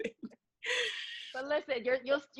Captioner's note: laughs